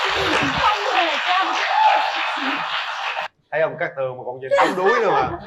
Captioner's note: applause